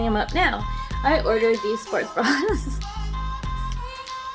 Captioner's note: giggles